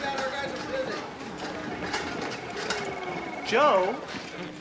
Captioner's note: phone ringing